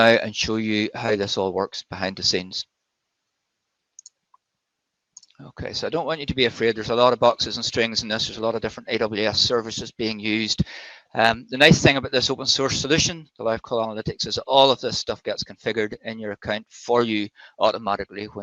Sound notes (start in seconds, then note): 4.0 mouse clicks